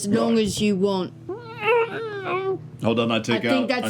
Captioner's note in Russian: приглушённый возглас возмущения